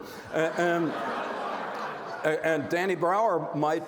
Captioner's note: audience laughs